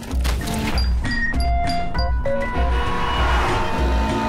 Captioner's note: horn blares